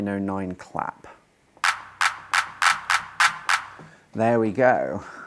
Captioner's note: clapping